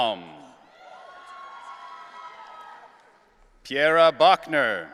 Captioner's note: audience cheering